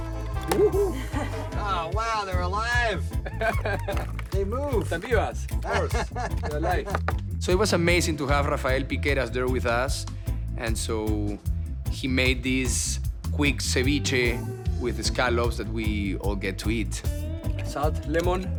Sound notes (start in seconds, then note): 2.9 laughing